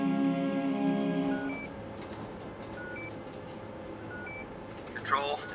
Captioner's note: computers beeping